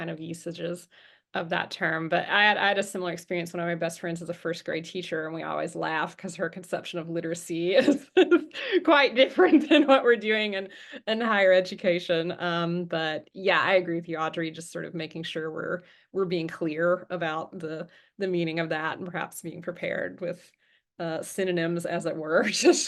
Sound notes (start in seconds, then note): 7.9 chuckles